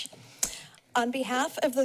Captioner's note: tongue clicks